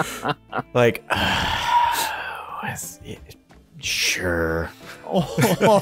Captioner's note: huge groan